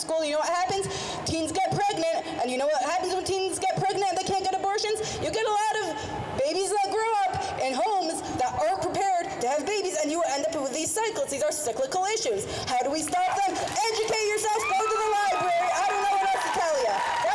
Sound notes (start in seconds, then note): 13.1 crowd cheers